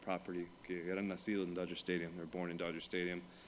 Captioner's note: Spanish language